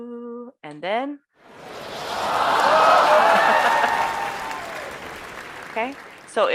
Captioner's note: applause